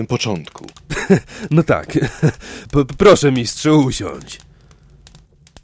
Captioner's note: laughs nervously